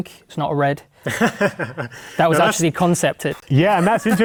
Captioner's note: laughter